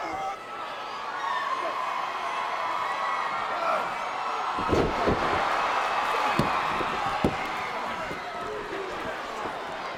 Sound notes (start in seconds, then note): 2.8 crowd cheers; 6.2 body thuds